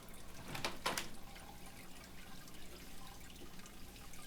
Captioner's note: opening door